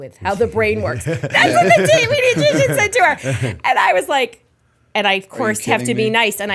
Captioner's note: laughter